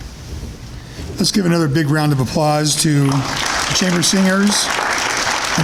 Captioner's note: applause